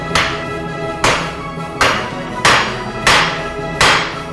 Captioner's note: energetic classical music; hammer banging